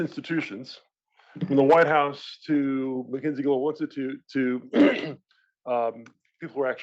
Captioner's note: cough